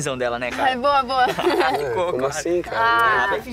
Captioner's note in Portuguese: risos